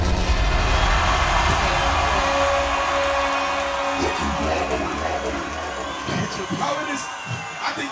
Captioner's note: cheering